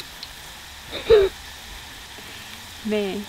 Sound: laughing

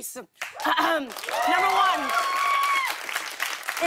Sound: cheering and applause

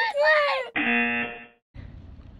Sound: buzzer

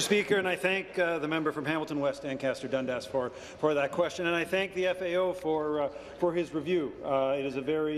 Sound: applause

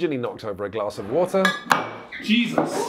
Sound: glass clatters

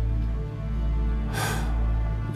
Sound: sighs

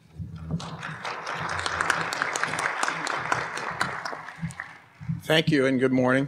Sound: applause

